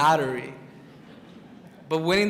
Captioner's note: crowd chuckles